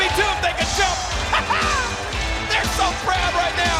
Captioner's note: chuckles